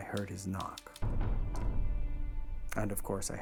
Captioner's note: banging